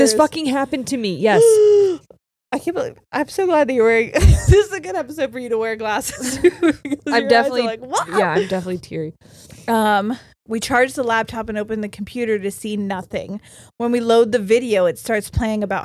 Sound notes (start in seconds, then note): 1.4 gasps